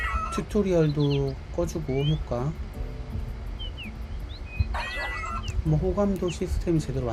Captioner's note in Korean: 웃음